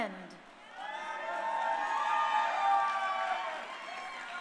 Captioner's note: crowd cheering